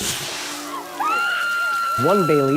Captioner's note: Principal Weems screaming